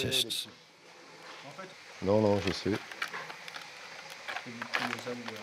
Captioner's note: speaking in foreign language